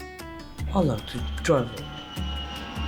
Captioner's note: airplane roaring